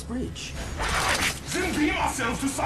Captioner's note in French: bruit de transition